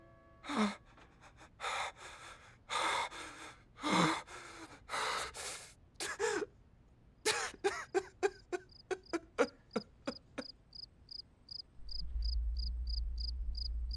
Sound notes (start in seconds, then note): 0.4 fearfull gasps; 7.2 crying; 11.8 cricket chirp